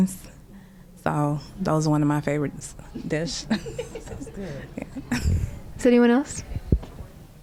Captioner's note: laughter